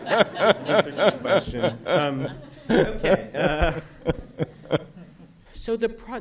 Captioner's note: laughter